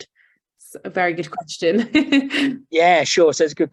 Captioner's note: laughs